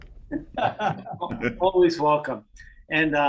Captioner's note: laughs